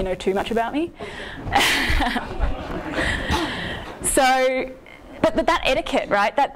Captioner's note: laughing